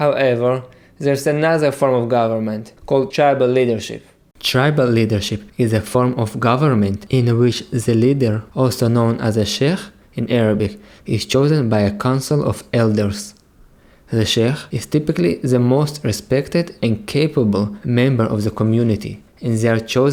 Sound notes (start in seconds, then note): 10.4 in Arabic